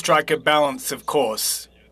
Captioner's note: speaking French